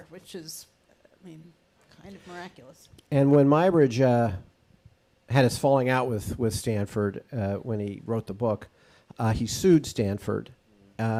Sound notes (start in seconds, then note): none